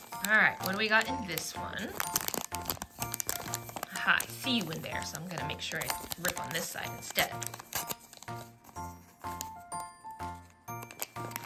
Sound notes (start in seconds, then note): none